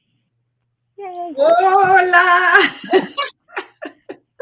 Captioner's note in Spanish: ríe